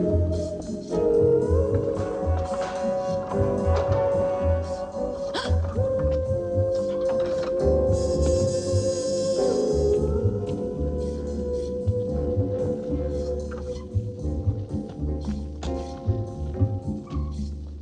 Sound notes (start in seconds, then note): 5.2 gasping; 8.5 ominous music